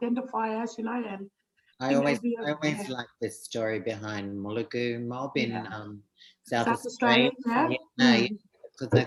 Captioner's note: speaking Indigenous language